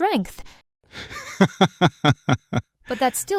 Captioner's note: laughs